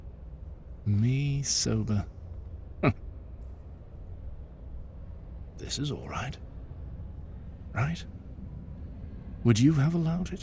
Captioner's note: laughs